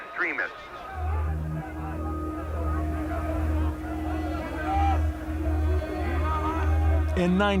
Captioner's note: overlapping shouts